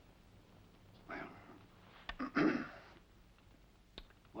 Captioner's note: clears throat